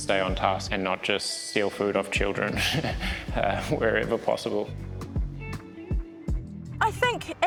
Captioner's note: chuckles